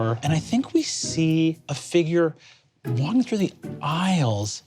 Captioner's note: none